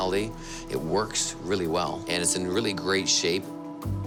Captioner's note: none